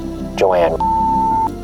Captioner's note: beeping